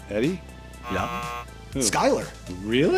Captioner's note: buzzer